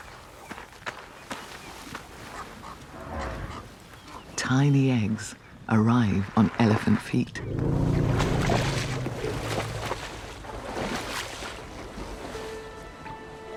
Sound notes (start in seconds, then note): 0.1 bird calling; 7.4 elephant chuffs